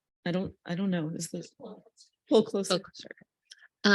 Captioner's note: speaks faintly